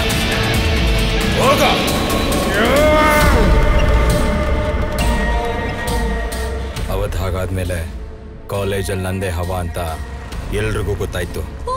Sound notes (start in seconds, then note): 1.0 crowd Cheering